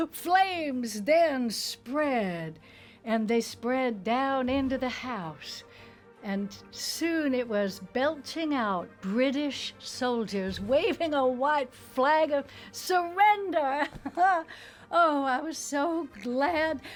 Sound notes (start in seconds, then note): 14.0 laughs